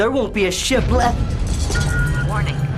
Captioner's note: explosion